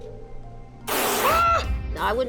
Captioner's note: screams